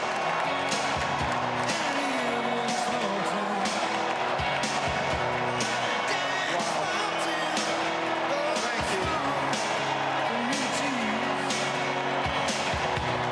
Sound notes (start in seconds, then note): 2.5 cheers and applause